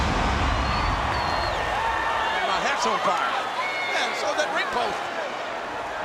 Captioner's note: applause